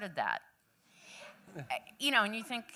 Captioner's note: laughter